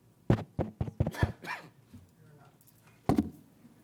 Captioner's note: tapping on mic